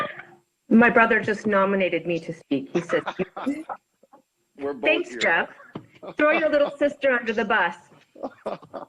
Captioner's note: laughter